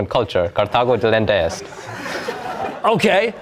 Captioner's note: laughter